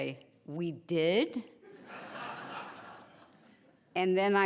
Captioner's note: laughing